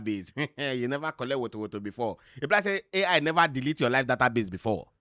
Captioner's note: chuckles